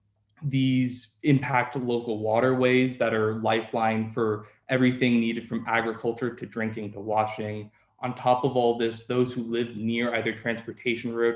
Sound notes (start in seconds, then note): none